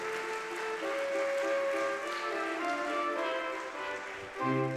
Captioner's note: audience clapping